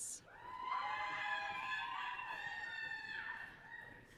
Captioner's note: audience cheering